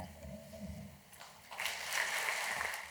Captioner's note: applause